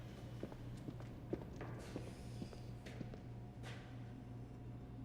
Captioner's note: shoes clacking